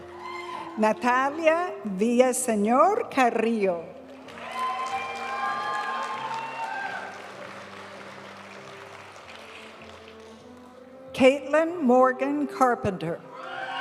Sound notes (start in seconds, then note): 4.2 audience cheering and applauding; 7.6 graduation music; 13.4 audience cheering and applauding